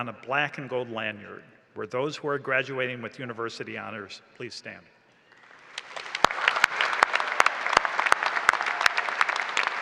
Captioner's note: applause and cheering